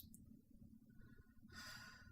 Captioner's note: sigh